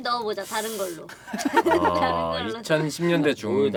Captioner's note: laughter